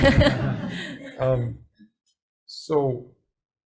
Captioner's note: group laughing